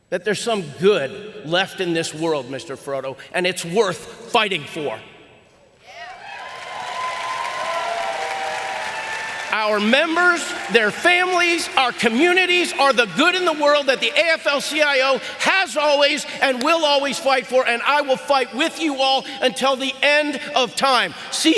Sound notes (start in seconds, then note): 5.9 audience cheering